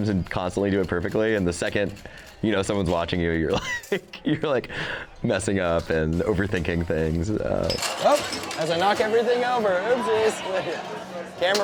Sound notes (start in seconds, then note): 3.5 laughs; 7.6 shaker clinking